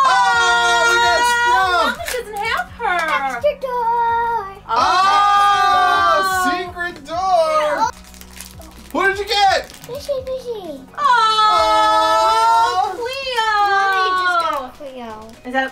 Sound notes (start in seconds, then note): 4.5 everyone exclaiming